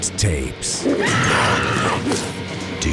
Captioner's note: woman screams